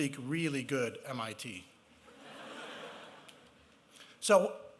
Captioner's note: laughter